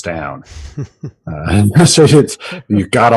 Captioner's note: laughing